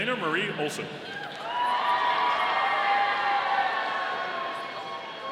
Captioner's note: audience cheering